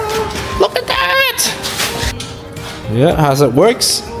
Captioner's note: fan girl scream